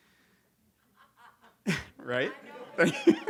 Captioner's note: laughs; audience member laughs